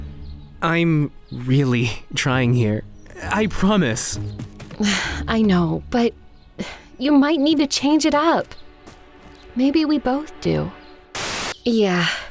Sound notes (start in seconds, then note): 4.8 sighs